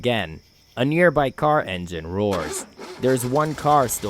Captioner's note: A nearby car engine roars